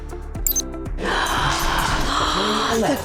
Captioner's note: breathing heavily